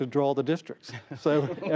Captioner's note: laughter